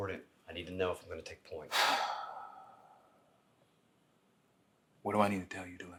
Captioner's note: Ford sighing